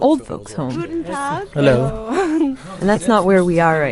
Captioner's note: woman speaking German